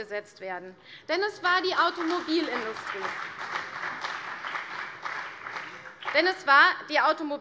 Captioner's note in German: Beifall CDU und BÜNDNIS 90/DIE GRÜNEN